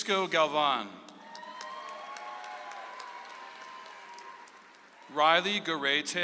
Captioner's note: audience applauds